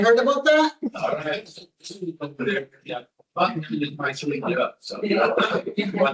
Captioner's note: distorted audio